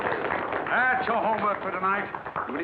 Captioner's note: applause